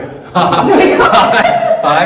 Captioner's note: laughing